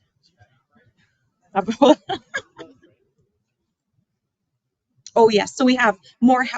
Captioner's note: laughing